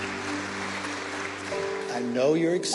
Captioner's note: attendees applaud